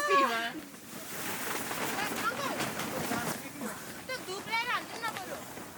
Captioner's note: laughs; tent rustling